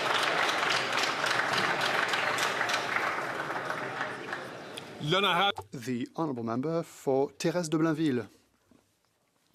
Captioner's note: some Applause